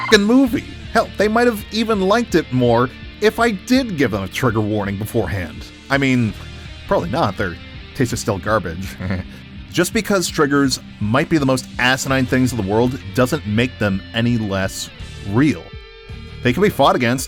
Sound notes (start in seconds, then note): 8.8 heh heh